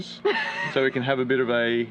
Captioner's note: laughs